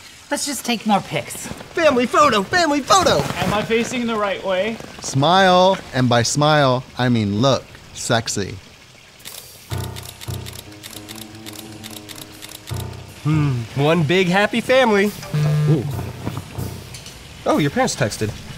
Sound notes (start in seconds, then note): 9.8 camera clicking; 15.2 phone buzzes